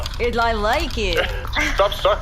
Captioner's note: laughing